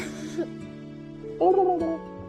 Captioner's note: laughs